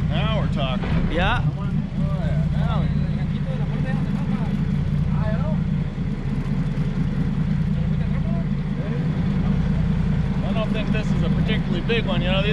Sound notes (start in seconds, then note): 3.4 boat engine idling